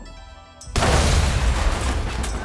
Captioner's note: explosion